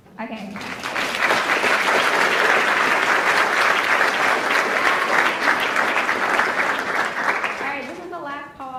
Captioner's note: applauds